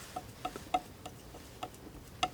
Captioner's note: tapping